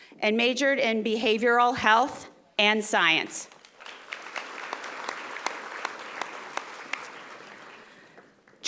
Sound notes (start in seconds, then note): 3.5 audience applauding